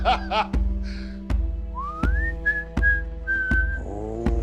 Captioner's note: Charles whistling